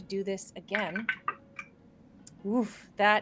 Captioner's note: dice rattling